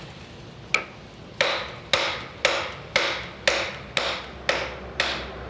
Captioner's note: hammer taps